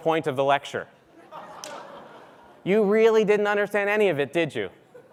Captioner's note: laugh